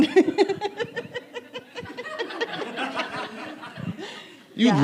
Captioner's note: laughing